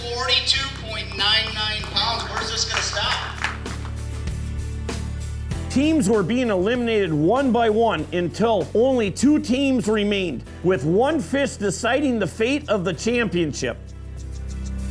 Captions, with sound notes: 42.99 pounds, where's this gonna stop? - [Voiceover] Teams were being eliminated one by one, until only two teams remained. With one fish deciding the fate of the championship.